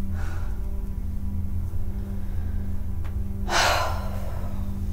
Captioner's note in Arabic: تتنهد